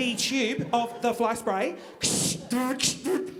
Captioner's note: blowing